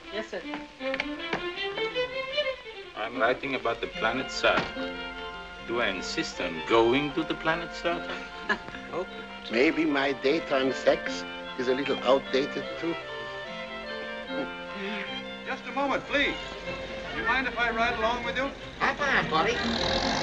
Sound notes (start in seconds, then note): 8.0 professors chuckling